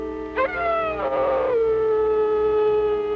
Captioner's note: dog Howling And Barking